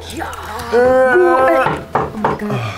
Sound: knocking

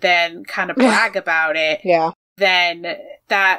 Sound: laughs

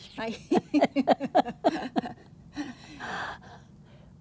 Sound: laughing

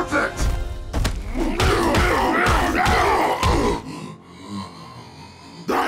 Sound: grunting

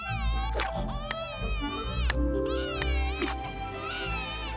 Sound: Harris cries; Grandma Rat claps

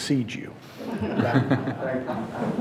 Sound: audience chuckling

